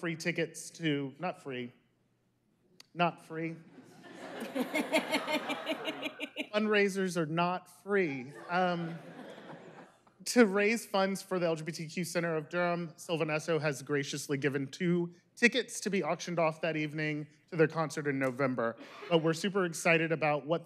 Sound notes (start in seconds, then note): 8.3 laughter